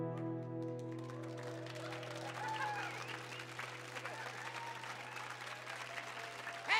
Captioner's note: audience clapping; audience cheering